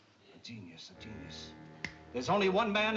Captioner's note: finger snap